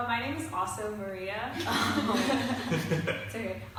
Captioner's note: laughter